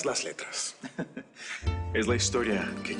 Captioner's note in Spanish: Risas